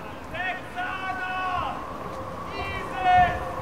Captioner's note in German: Mann ruft